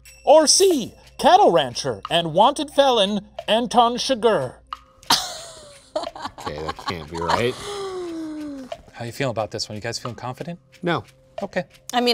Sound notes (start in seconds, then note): 5.1 laughs